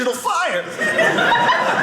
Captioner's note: audience laughing